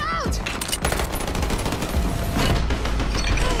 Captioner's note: gunfire